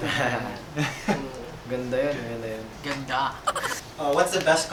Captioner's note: laughs